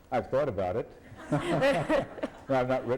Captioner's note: laughter